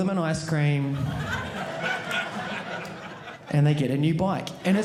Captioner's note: audience laughing